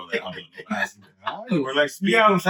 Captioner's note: all Laughing